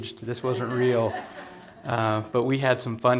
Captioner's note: laughter